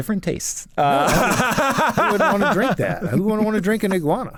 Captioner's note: laughs